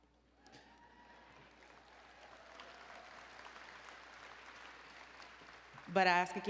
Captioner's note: applause and Cheering